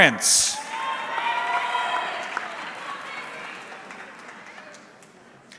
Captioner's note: audience cheering